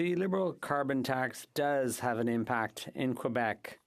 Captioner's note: speaking French